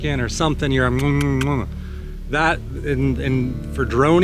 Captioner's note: smacking noise